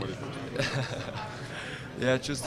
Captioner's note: laughing